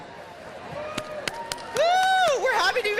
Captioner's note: cheers and applause